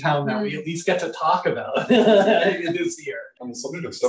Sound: laughing

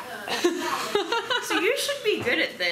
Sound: laughing

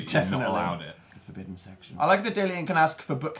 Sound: whispers

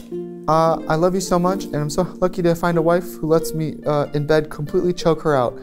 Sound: none

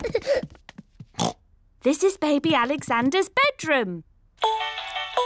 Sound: oinks; mobile playing loud music

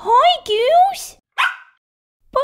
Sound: bark!

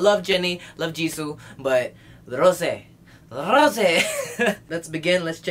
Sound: giggle

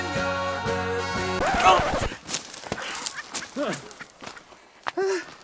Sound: record scratches

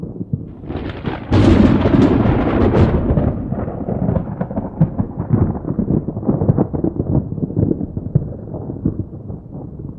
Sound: thunder

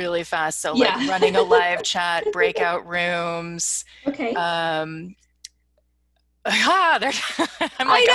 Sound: laughs

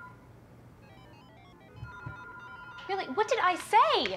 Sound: loud ringing; loud beeping

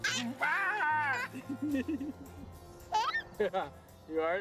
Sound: laughter

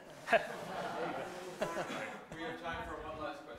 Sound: laughter

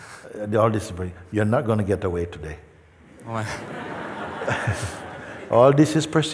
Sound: laughter

